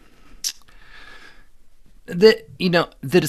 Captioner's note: clicks tongue